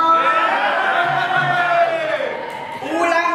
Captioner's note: animals cheer